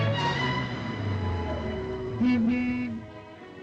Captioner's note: car horn honks